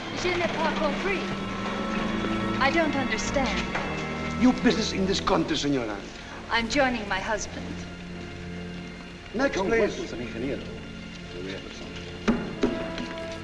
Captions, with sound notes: (WOMAN SPEAKING FRENCH) I don't understand. -Your business in this country, senora? -I'm joining my husband. (SPEAKING SPANISH)